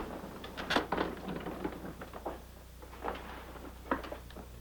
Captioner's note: wheelchair clatters